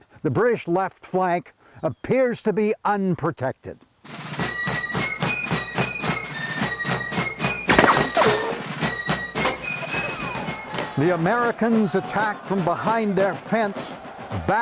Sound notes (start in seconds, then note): 4.4 fifes and drums sounding; 7.7 guns cracking